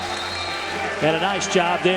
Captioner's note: whistle